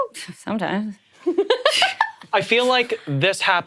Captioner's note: laughs